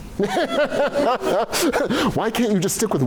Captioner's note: laughter